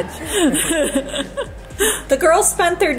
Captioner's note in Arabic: يضحك